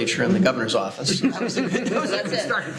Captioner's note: laughter